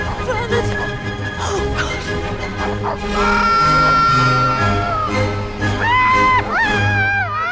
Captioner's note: screaming